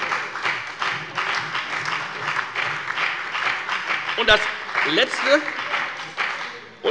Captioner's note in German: Lebhafter Beifall bei der FDP - Beifall bei Abgeordneten der SPD